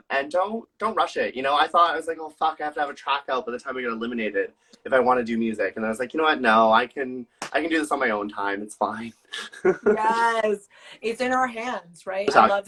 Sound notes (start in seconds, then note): 9.3 laughs